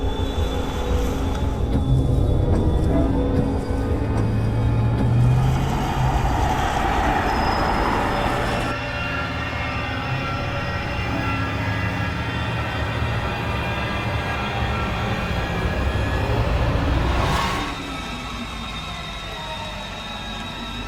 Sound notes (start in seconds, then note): 2.7 windshield wipers moving; 5.1 engine revving; 8.3 suspenseful music; 17.8 wind howling